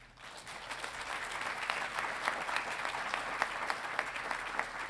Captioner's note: audience applauding